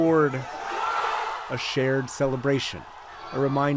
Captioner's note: cheering